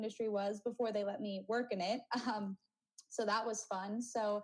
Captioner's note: chuckles